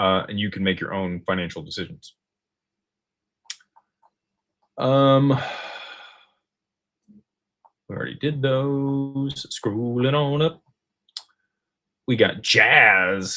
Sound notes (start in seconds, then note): 5.3 sighs